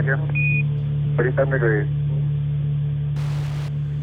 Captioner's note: voiceover